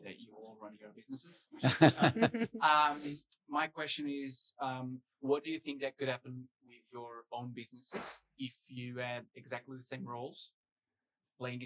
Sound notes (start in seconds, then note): 1.6 panelists laughing